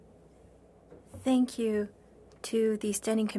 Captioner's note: speaking French